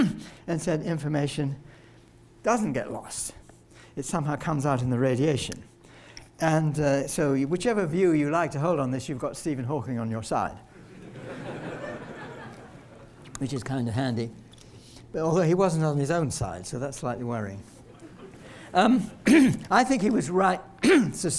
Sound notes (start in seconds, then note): 10.8 laughter